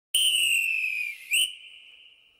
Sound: whistle

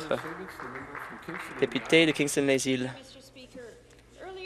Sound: some applause

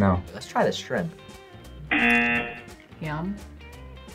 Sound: buzzer rings

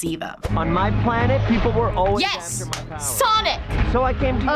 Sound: claps

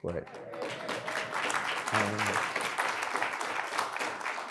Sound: audience applauds

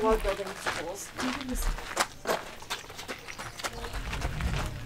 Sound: footsteps crunching; soft chattering

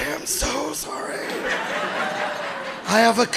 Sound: audience laughing

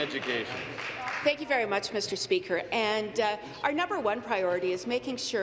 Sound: applause

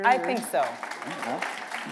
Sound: applause

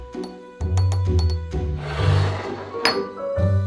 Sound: spoon clanking

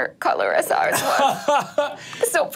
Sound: laughs

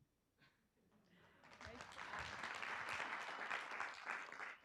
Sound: group clapping

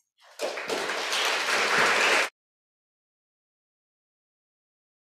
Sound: audience applauding

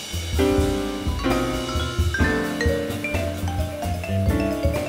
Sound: none

